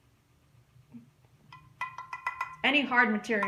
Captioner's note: taps pan